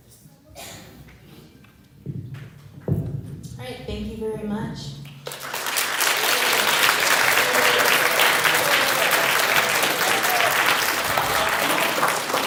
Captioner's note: applause